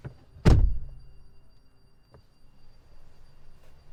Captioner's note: car door thuds shut